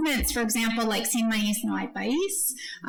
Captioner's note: speaking foreign language